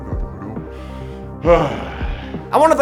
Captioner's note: big sigh